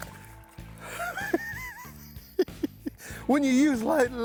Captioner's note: laughing